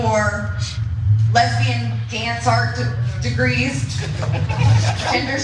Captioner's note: laugh